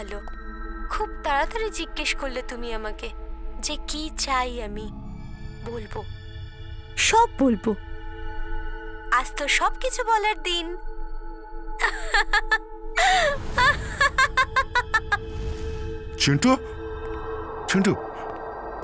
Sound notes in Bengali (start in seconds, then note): 13.6 সশব্দ হাসি